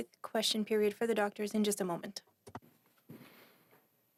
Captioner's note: speaking French